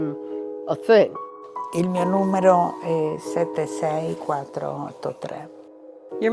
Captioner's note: speaking in foreign language